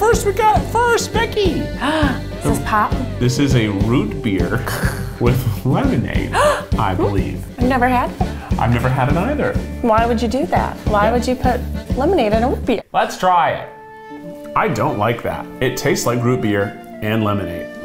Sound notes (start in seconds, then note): 4.6 gags; 6.3 gasps